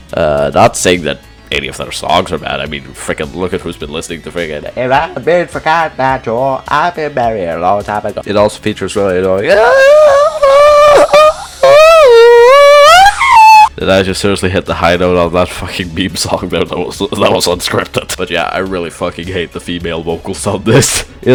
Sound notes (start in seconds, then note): 16.6 bursts into laughter